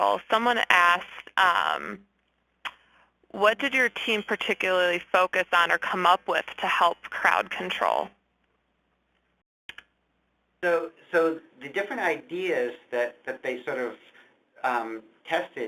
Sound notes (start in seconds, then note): 10.9 voiceover